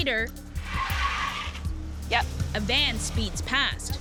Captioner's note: tires squealing